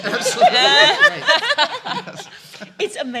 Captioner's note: laughing